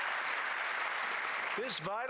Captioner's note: applause